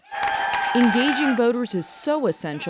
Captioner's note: cheering and applause